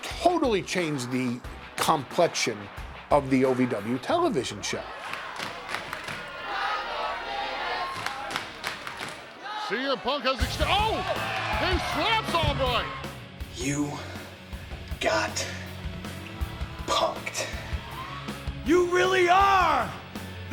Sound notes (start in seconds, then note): 7.8 applause